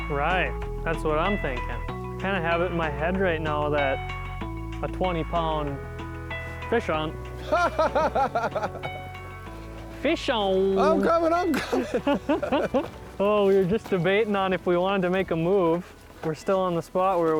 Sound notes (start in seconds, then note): 7.4 laughing